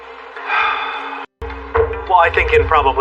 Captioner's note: pounding